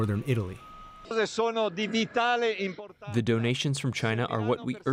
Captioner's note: through translator